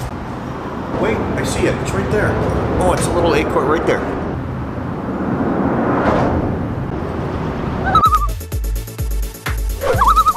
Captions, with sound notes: Wait, I see it. It's right there. Oh it's a little acorn right there. [loon call] [loon call]